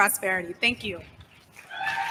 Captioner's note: applause